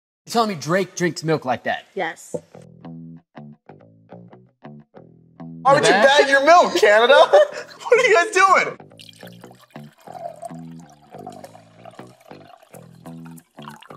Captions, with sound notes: - You're telling me Drake drinks milk like that? - Yes. (funky music) - Why would you bag your milk, Canada? What are you guys doing? (milk pouring)